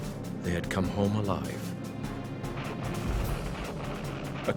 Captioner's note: bombs exploding